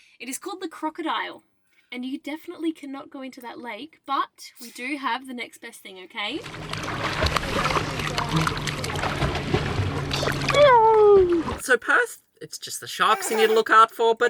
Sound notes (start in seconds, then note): 6.4 water splashing